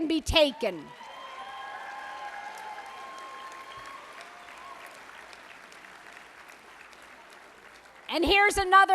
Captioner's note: applause